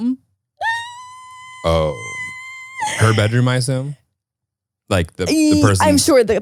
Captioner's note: squeals